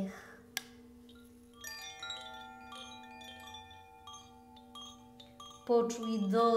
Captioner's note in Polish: dźwięk dzwonków